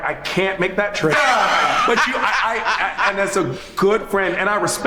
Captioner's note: laughs